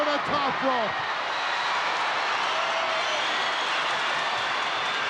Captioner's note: crowd cheering